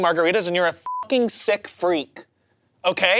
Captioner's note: beep